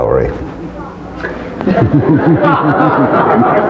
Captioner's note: laughter